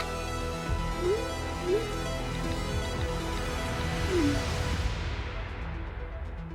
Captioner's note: message alert